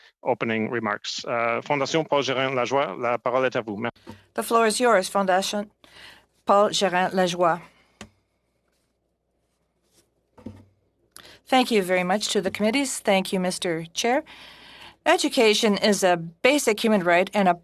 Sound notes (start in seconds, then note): 6.6 speaking in French; 14.7 speaking in French